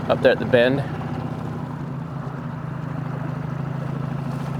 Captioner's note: motor burbling